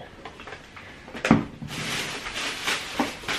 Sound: plastic crinkling

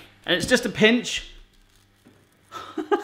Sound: laughs

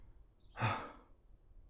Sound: sigh

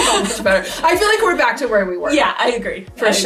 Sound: both laugh

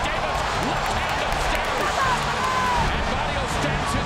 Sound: cheering

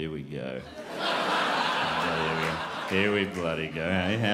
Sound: crowd laughs

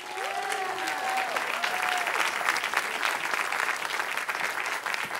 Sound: cheering

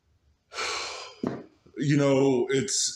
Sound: sighs

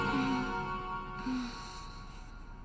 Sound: moans

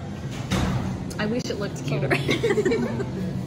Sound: laughs

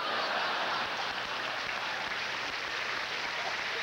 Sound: applause

